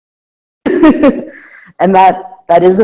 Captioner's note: laugh